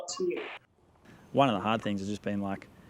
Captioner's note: static crackling